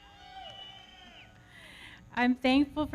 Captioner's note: audience cheering